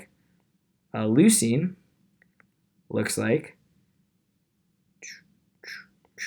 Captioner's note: mouth chirping